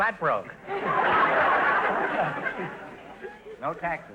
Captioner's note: audience laughter